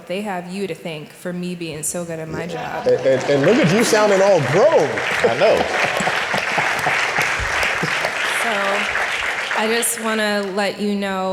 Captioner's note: applause